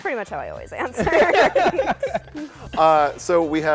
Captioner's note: laughter